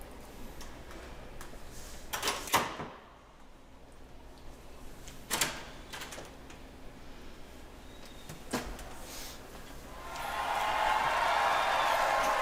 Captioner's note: crowd cheering